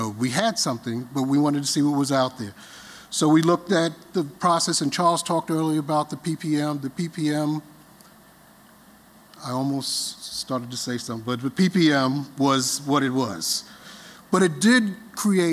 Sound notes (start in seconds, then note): none